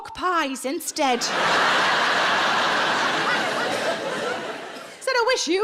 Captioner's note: audience laughs